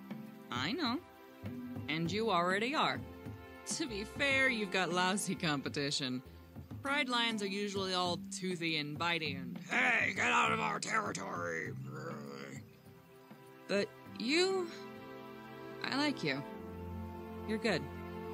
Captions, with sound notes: I know. And you already are. To be fair, you've got lousy competition. Pride lions are usually all toothy and biting and [in deep voice] 'hey, get out of our territory!' [growls] But, you... I like you. You're good.